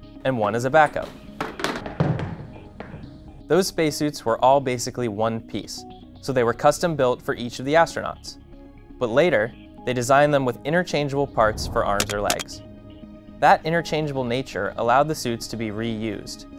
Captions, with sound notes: and one as a backup [helmet thud] those space suits were all basically one piece so they were custom-built for each of the astronauts but later they designed them with interchangeable parts for arms or legs that interchangeable nature allowed the suits to be reused